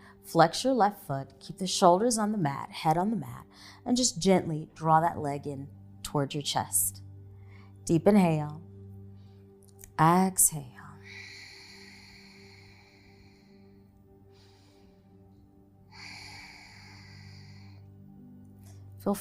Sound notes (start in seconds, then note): 11.0 exhaling; 13.7 relaxing music and audible breathing